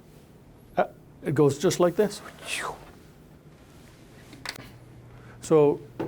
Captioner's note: whooshing noise